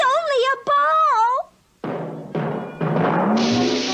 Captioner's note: bouncing